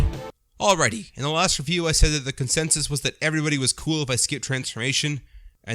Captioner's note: none